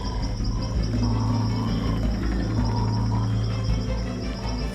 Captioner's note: various animals vocalizing